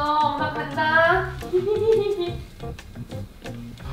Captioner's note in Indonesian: tertawa